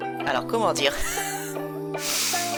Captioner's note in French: rigole